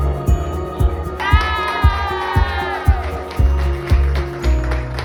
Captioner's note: applause